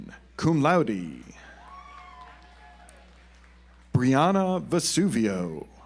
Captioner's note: audience applauds